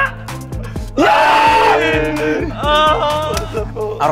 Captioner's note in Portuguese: Gritos